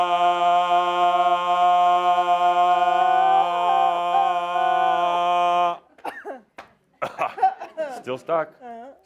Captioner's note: coughs again